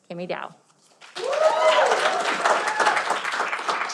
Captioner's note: cheering